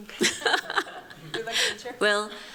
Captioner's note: chuckles